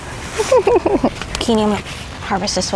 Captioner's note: giggles